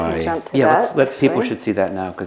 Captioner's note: ringing sound